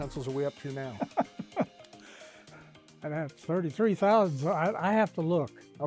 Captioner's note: laughs